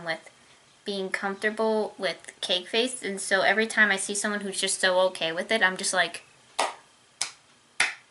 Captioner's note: clap